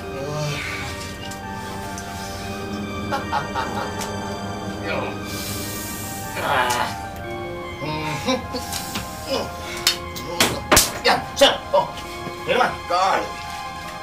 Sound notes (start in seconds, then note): 2.3 laughs; 6.2 Alex grunts